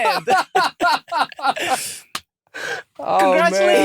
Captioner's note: laughter